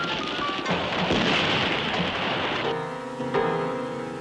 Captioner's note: guns firing